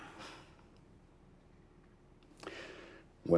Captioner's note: sighs